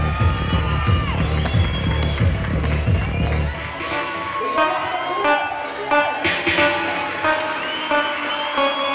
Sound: cheers and applause

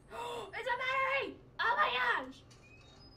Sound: gasp

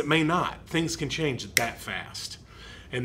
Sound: finger snapping

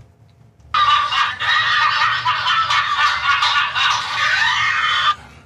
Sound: laughter

